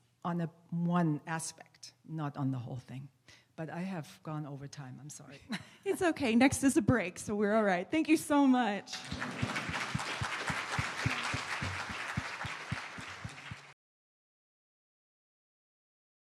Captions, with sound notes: on the one aspect, not on the whole thing, but I have gone over time. I'm sorry. It's okay. Next is a break. So we're all right. Thank you so much. *applause*